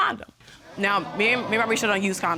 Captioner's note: audience gasps